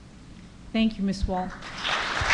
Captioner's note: applause